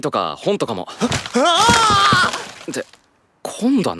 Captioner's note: yells in shock